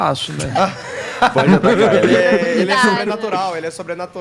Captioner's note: laughs